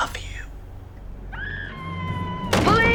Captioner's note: screaming